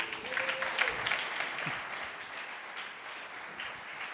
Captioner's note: audience applauds